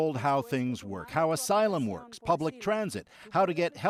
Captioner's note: speaking alternate language